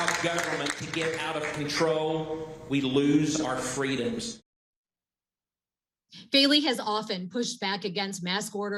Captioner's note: applause